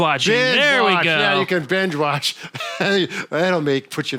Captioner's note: laughs